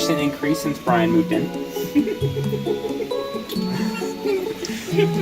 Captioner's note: giggling